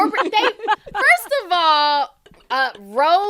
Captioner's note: laughter